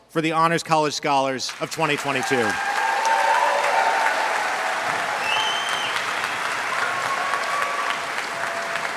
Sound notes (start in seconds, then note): 1.5 audience applauds; 1.9 audience cheers